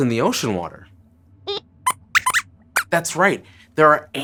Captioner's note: squeaks squeaks